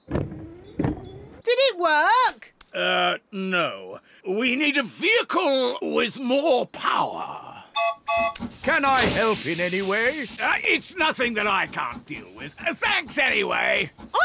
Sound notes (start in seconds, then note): 7.7 toots horn